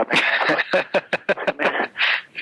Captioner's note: laughs